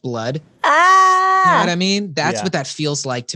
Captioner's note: screaming